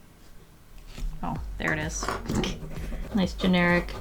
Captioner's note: laugh